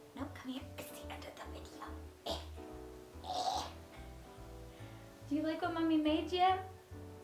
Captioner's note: goblin noise